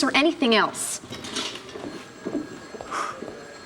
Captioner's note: phone ringing